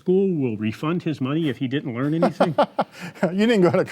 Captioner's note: laughs